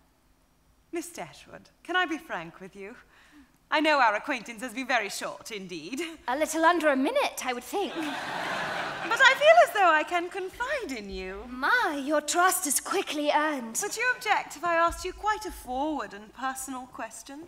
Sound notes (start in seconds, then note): 7.8 audience laughing